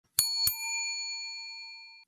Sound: bell ringing

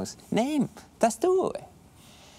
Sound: Italian accent

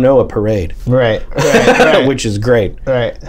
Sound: laughter

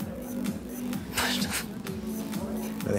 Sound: laughs

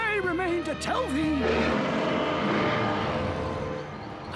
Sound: roar

